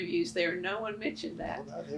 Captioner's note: laughs